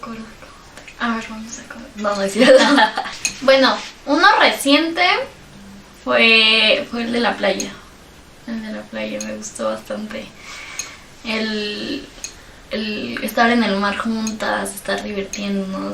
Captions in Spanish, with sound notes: Vamos a comer no no es cierto *risas* bueno uno reciente fue el de la playa me gustó bastante estar en el mar juntas estar divirtiéndonos